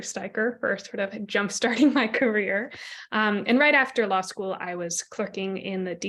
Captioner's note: laughter